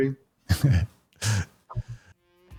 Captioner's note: laughing